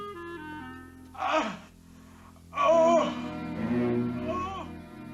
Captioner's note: groaning